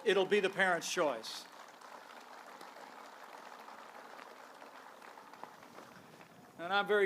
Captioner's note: applause